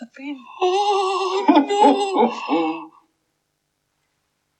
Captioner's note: Cauldron Laughs